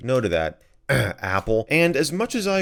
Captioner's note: clears throat